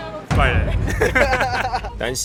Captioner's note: laughing